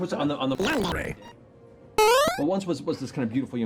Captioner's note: bounce sound